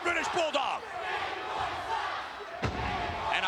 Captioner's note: spectators cheering